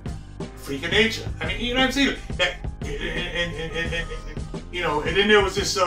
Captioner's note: stutters